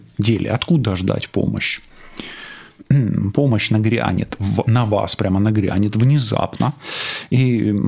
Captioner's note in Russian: откашливается